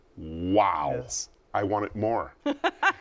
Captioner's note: laughs